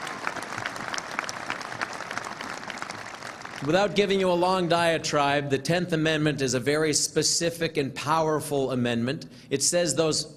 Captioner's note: applause